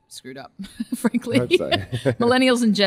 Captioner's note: laughs